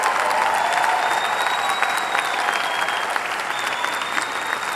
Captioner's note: audience cheering